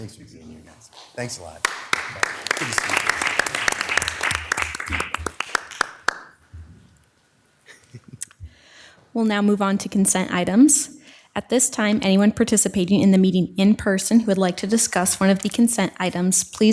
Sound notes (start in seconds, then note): 3.2 all applauding